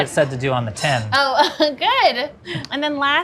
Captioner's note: laughs